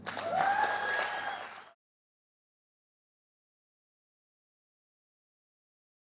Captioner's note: audience cheering; audience clapping